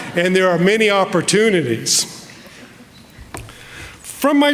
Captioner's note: none